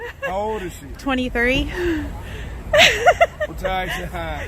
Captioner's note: laughs